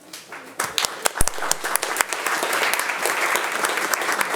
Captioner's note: attendees applauding